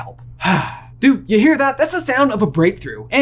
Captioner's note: sighs